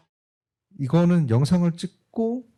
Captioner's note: speaking korean